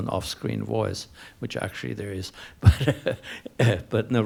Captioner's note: laughs